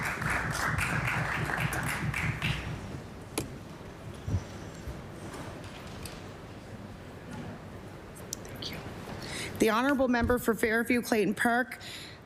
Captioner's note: applause